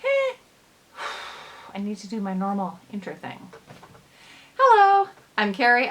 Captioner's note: sighs